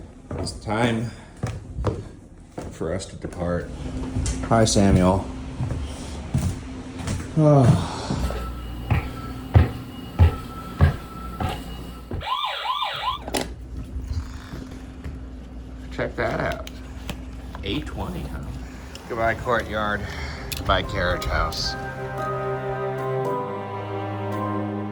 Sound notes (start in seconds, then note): 8.8 footsteps ascending; 12.0 motion alarm blaring; 13.2 motion alarm clicking; 20.4 bright spooky music